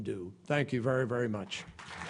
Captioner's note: applause